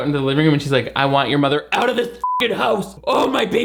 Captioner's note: beep